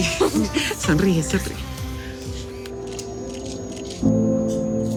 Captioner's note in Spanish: Exclamaciones; Sonidos del obturador